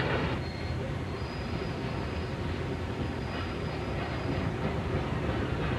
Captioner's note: brakes squealing